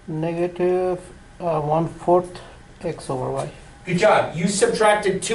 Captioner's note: voiceover